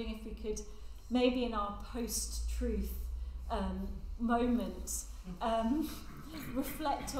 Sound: laughs

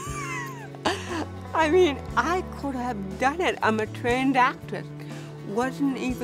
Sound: laughs

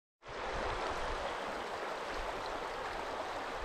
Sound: rushing water

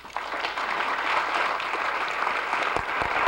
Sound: applause

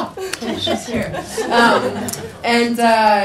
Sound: people laugh

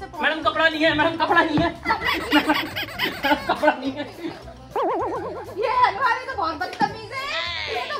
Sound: laughter

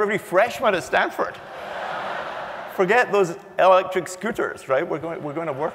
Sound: laugh

